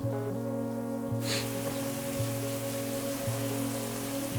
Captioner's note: man sniffing